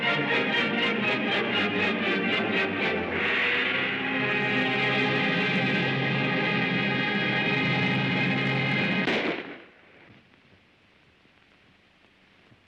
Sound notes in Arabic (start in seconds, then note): 0.0 موسيقى درامية; 9.0 طلق ناري